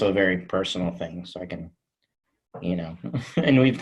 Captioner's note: chuckles